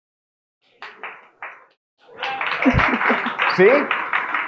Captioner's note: audience applauding